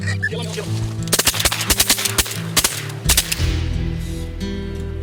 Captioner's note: gun shots fire